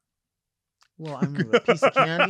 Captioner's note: laughing